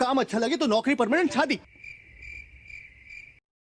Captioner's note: crickets chirping